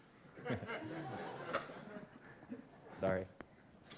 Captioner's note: laughter